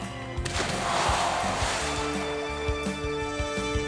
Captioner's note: water splashing